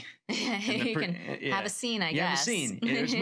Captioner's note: laughing